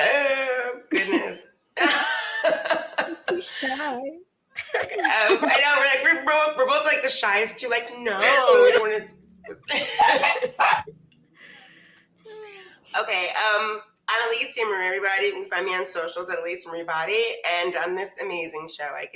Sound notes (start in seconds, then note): 1.8 laughs; 10.4 dog barking